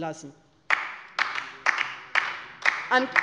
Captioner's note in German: Beifall bei der LINKEN